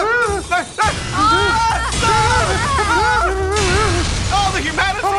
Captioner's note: both groan